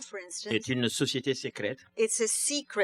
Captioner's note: speaking french